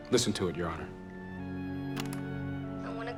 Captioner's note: player clicks